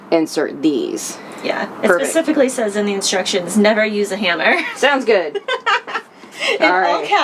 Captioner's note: laugh